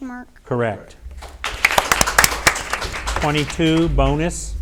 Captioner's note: audience applauds